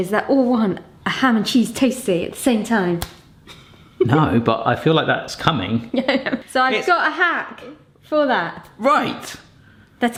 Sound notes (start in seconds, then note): 5.9 chuckles